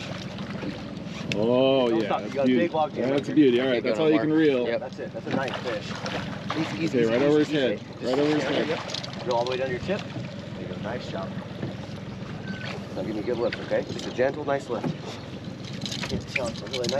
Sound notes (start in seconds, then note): 0.0 fish splashing; 2.1 reel cranking; 7.8 fish splashing